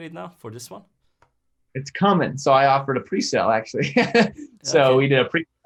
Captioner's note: laughs